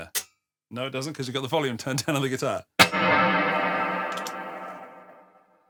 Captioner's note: gunshot